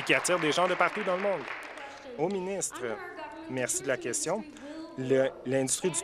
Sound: applause

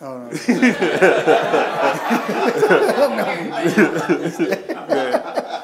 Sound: laughing

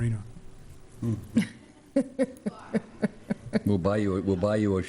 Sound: laughter

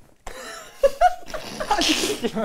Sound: laughing; argh

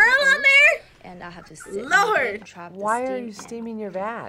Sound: React laughs

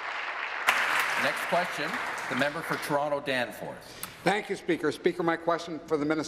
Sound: applause

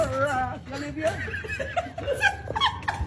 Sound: laugh

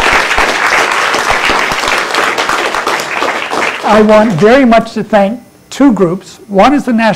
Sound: applause

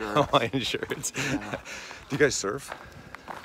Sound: laughing

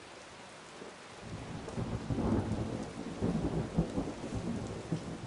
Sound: thunder rolls

